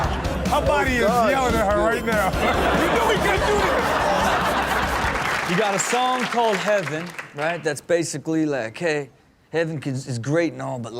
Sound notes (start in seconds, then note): 2.6 audience cheers and claps